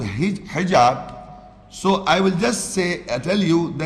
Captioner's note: Arabic